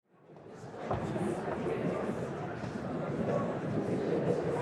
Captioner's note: audience chattering